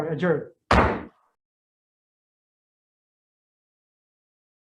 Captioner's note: banging of the gavel